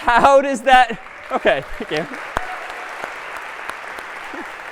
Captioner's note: applause